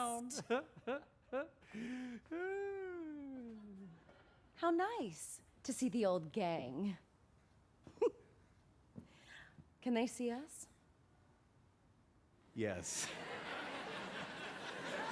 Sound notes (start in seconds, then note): 1.2 laughing; 7.9 chuckles